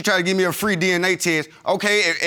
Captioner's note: stammering